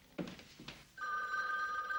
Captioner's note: phone ringing